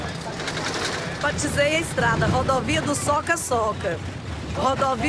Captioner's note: Portuguese spoken audio